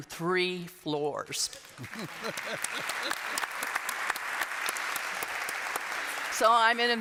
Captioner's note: applause